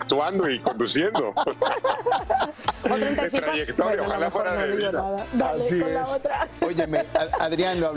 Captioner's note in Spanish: risas; risas